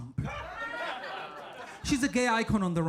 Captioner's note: audience laughing